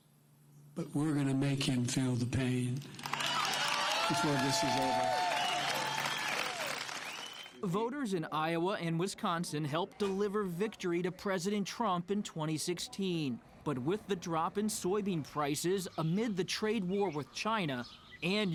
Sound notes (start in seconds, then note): 2.9 cheers, applause